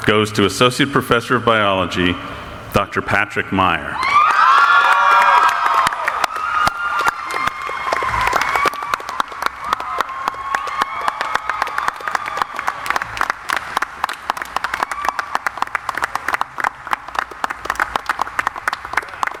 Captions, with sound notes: goes to Associate Professor of Biology, Dr. Patrick Meyer. (cheering) (audience applauding)